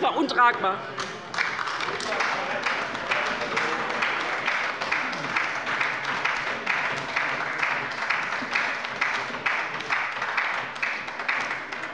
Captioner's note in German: Beifall bei der LINKEN